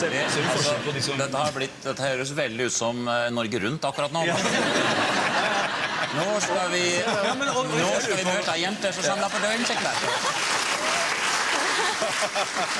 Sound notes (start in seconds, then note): 9.4 laughing